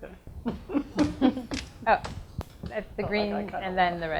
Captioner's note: laughs